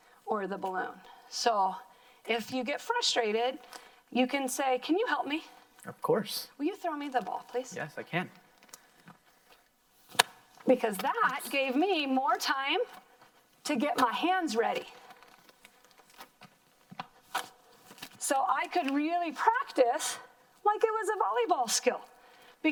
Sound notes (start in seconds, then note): 10.0 plastic popping; 16.5 plastic crinkling